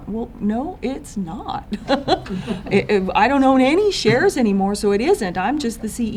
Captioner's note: laughter